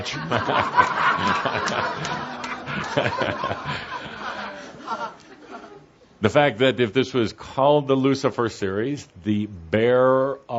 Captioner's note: much laughter, chuckling